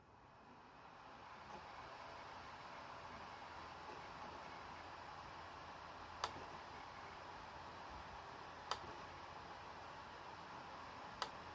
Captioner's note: laptop dvd drive spinning